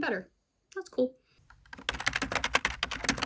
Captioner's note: keyboard typing noises